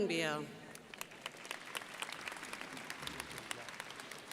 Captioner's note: crowd applauding